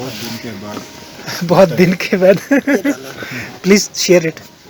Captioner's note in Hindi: हँसते हुए